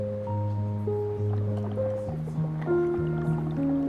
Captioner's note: fluid bubbling